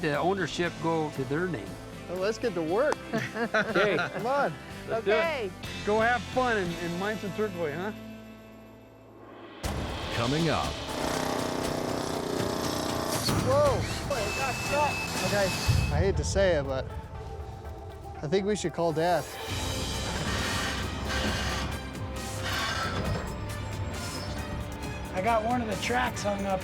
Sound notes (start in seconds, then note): 2.9 high-five clap; 10.6 drilling; 13.7 thud, drilling stops; 15.1 drill sputtering; 19.6 motor sputtering, squealing